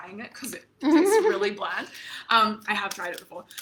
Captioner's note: laughs